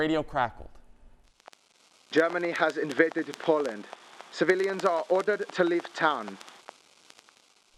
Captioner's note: radio crackling